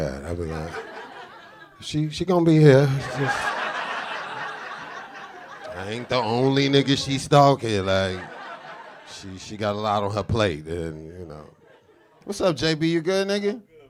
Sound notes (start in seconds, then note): 2.6 audience laughing